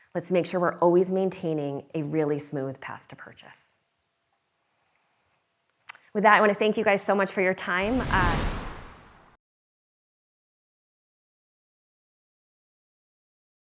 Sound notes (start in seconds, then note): 7.8 loud whooshing